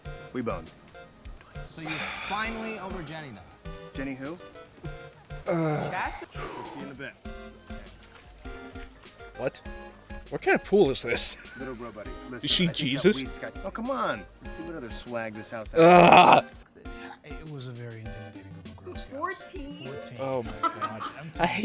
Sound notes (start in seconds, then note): 1.8 sigh; 5.4 exhale